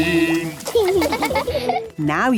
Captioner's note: laughing